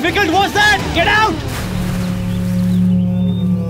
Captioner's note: Water splashing